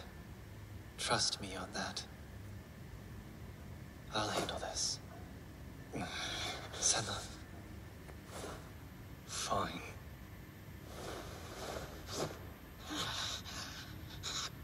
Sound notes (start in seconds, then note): 8.3 Qi Rong inhales the floor